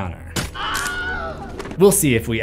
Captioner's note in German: Wilhelm schreit